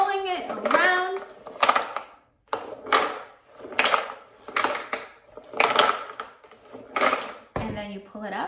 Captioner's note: marble rolling interlude continues